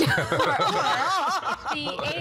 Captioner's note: laughing